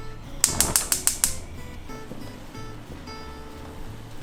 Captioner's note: glass clinking; burner clicking